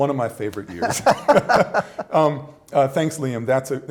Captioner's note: laughter